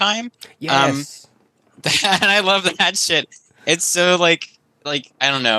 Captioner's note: laughs